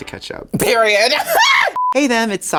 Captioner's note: laughs